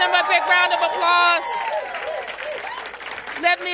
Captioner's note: applause